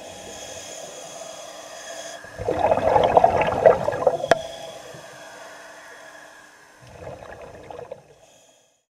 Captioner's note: gurgling water